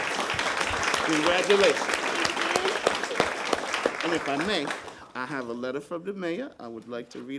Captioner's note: applause